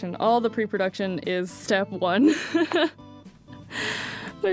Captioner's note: nervous laugh